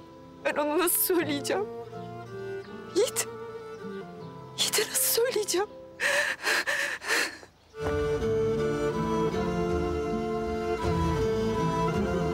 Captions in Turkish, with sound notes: Ben ona nasıl söyleyeceğim? Yiğit. Yiğit'e nasıl söyleyeceğim? (İç çekerek ağlar.)